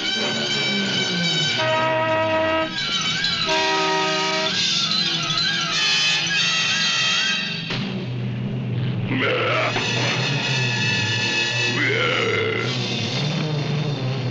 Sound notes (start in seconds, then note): 1.8 car horn honking